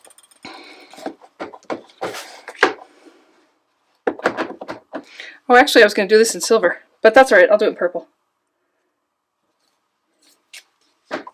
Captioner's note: stamping